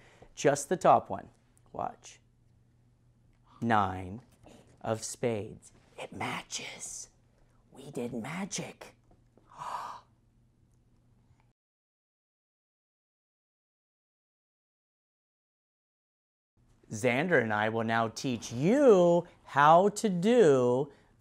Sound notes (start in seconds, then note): 9.4 gasps